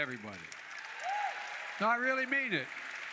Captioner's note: applause